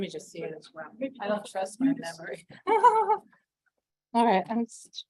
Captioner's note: laughs